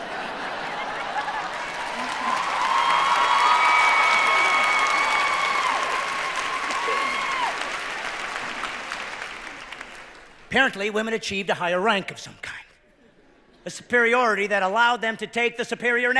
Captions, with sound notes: Why is your name two letters better than ours? [cheering] Apparently women achieved a higher rank of some kind.